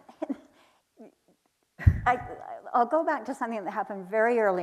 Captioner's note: chuckles